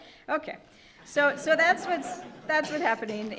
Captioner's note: audience laughing